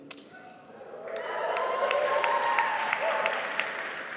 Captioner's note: cheering